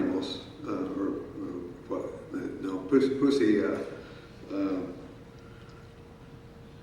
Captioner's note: speaking in foreign language